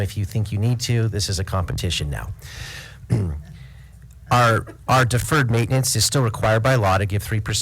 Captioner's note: lite laughter